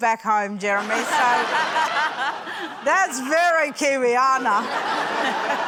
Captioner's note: laughter